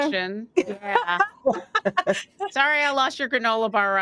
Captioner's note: laugh